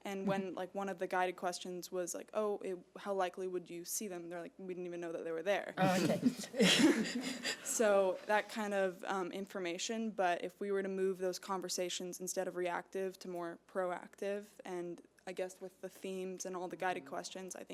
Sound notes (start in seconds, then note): 5.8 laughing